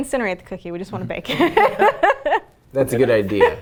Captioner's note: laughs